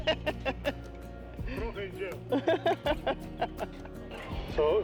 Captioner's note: laughter